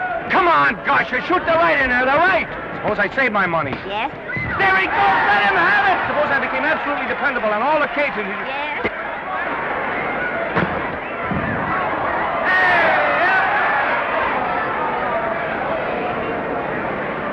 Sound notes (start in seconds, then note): 10.5 thump; 12.2 crowd noise